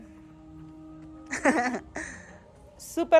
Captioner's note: laughs